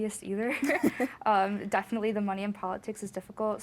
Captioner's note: both laughing